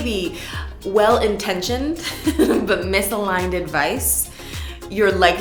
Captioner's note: giggles